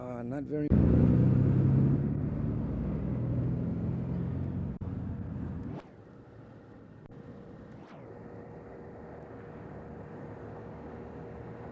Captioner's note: street noise